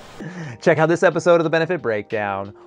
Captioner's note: sigh